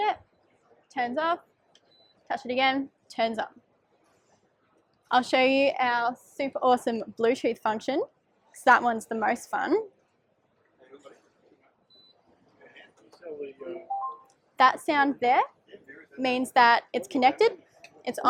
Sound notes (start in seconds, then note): 13.8 beeping noise